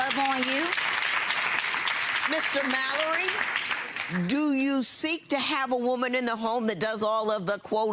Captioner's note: audience applauding